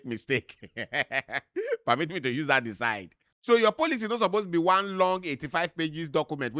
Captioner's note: laughing